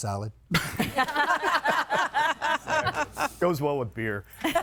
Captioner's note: guests laughing